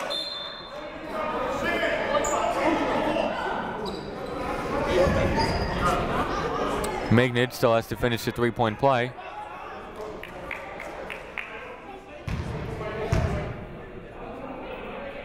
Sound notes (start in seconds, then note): 0.0 whistle blowing; 2.9 shouting